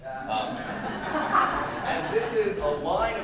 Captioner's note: laughter